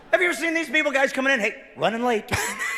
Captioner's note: laughing